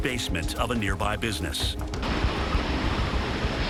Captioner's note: distorted roar